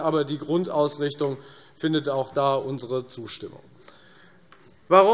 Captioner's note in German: none